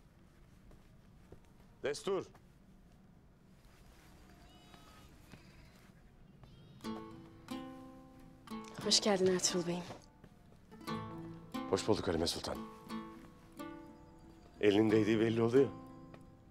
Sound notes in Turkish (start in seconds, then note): 4.2 Küçükbaş hayvan sesleri